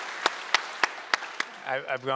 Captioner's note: audience applauding